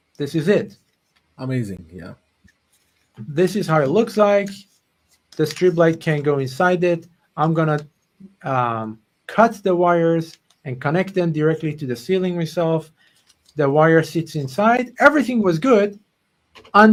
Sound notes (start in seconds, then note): none